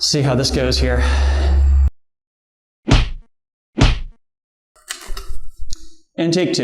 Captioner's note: whacking noises